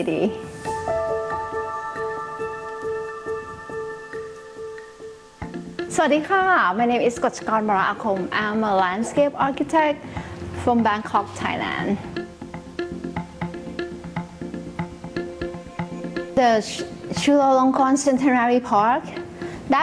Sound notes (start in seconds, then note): 6.0 speaking thai